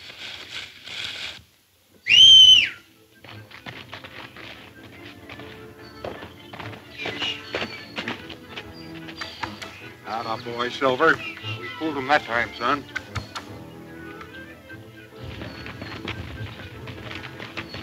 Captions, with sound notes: (loud whistle) (horse hoof beats) - That a boy Silver! We fooled 'em that time son!